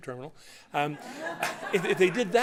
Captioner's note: laughter